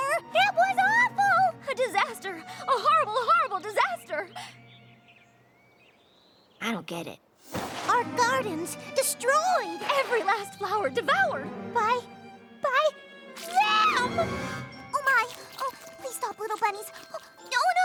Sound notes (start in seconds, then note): 5.1 birds chirping